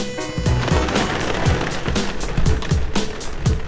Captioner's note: wings flapping